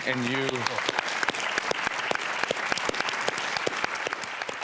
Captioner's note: audience claps